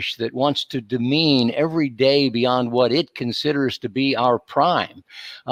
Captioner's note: none